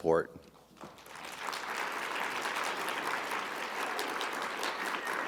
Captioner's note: audience applauding